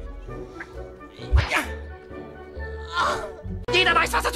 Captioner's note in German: Stöhnen von Nontschew